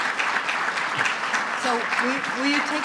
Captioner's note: applause